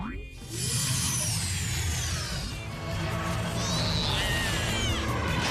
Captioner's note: yelling